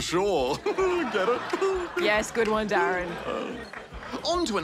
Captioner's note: laughs